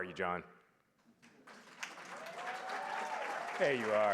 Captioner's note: applause